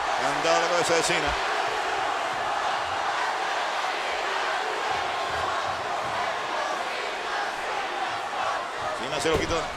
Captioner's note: applause